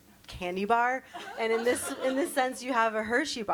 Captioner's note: everyone laughs